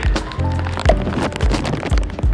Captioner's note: pop